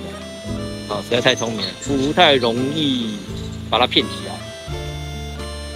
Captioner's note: excavator moving